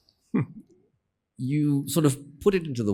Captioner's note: giggles